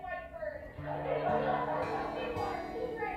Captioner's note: audience laughter